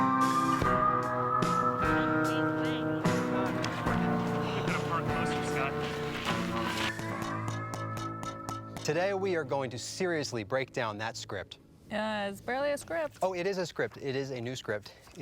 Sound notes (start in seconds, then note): 1.5 distant chatter